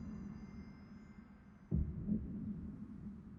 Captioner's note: heart beats loudly